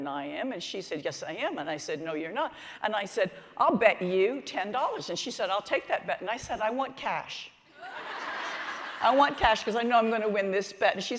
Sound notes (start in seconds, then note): 7.7 laughter